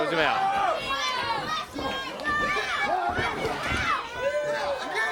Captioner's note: crowd chatter